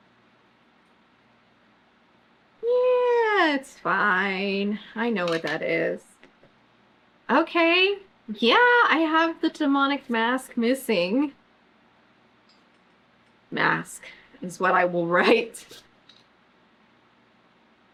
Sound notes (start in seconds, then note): none